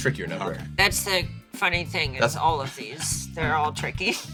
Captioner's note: chuckles